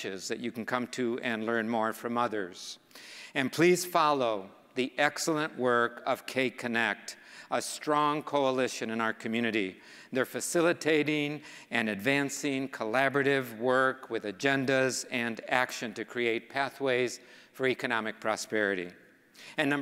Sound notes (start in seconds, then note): none